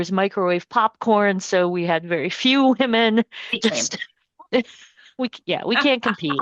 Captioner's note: laughs